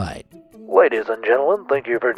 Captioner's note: in an Airplane Announcer voice